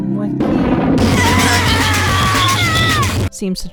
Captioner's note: thunder crash; chaotic music; sinister music; woman screaming in anguish